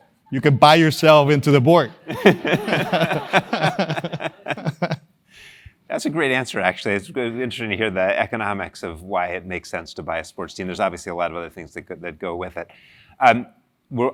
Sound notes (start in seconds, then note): 2.1 laugh